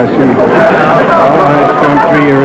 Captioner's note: audience groans